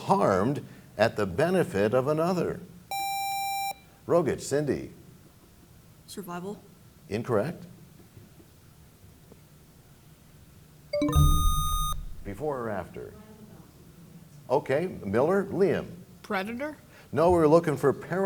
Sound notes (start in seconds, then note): 10.9 bell chimes; 11.0 buzzer sound